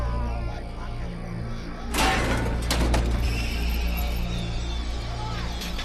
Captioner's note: screeching; chain clanking